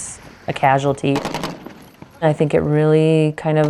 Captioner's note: gun shooting